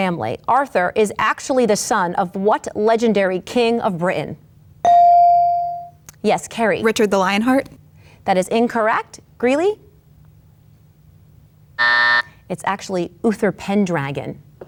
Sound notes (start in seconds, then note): 4.8 bell rings; 11.8 timer buzzes